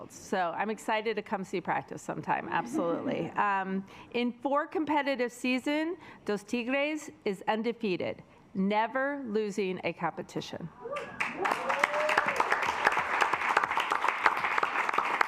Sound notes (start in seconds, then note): 12.0 assembly clapping